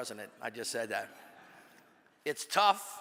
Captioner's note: audience laughs